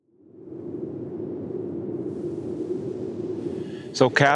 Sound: avatar flying sound

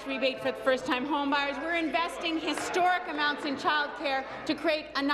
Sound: applause

